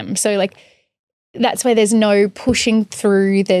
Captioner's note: none